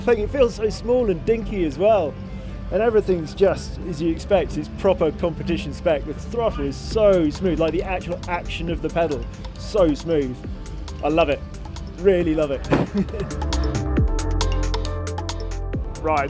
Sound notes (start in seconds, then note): 12.6 chuckles; 13.6 upbeat music